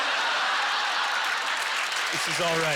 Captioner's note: audience laughter; applause